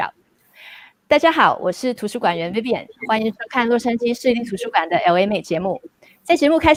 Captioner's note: speaking in foreign language